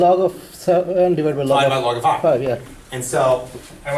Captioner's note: voiceover